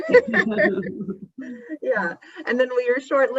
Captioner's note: both laugh